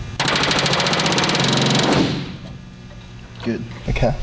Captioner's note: metal buzzing